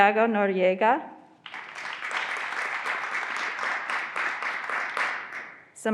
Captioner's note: graduands applauding